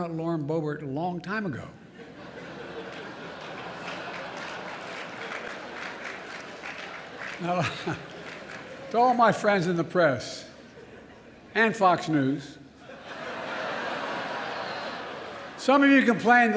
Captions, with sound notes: Lauren Boebert a long time ago. (Laughter and applause.) Now, to all of my friends in the press -- and Fox News -- (laughter) -- some of you complain